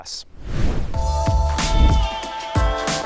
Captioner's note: air whooshes; upbeat music